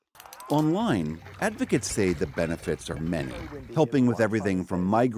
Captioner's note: voice-over